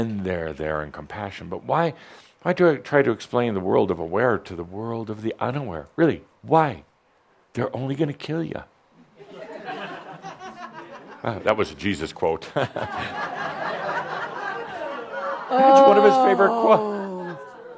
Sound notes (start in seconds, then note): 9.5 some chuckles; 12.4 more chuckles